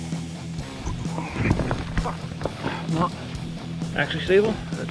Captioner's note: cursing; rocks rolling